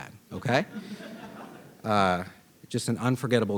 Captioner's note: audience laughing